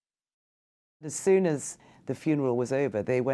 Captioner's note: voiceover